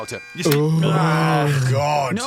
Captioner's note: groans of mental anguish